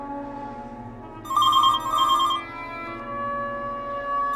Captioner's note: telephone rings